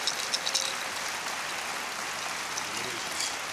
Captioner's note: applause